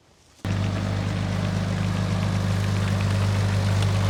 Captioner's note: engine rumbling